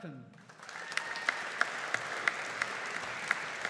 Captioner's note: audience applauding